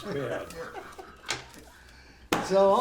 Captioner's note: laughter